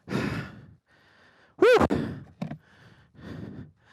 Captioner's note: pants